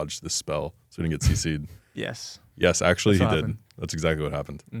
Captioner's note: laughs